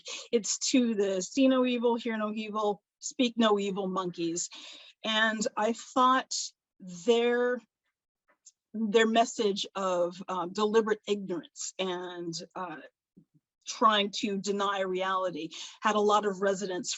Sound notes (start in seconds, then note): none